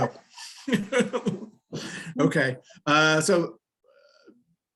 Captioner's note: laughing